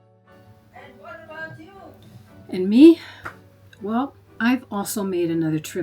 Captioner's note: off screen someone yells